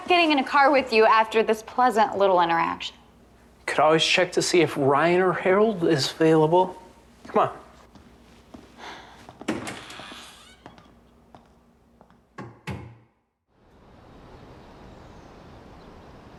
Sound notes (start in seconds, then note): 9.4 door creaking; 11.2 footsteps clacking; 12.4 door slamming